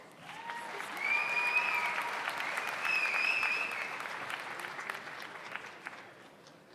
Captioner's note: audience applauds; audience cheers